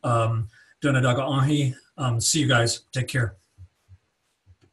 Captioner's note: speaking in Cherokee